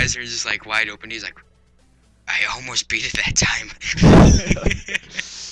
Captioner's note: laughter